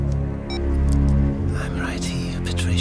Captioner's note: camera beeps